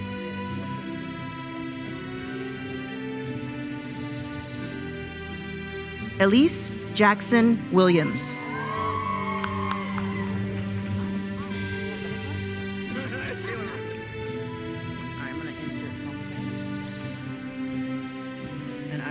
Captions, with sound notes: Elyse Jackson Williams. (attendees cheering) (uplifting music continues)